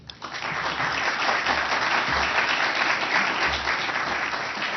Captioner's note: applause